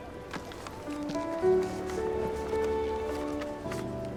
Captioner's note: paper rustling